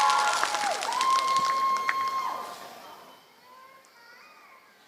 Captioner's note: applause